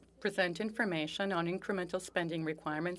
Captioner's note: speaking French